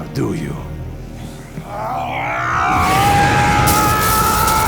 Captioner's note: yells